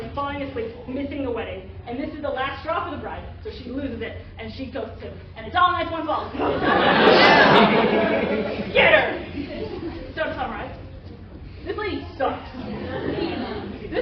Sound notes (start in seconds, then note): 6.3 laughter